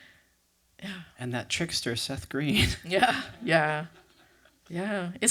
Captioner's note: laughter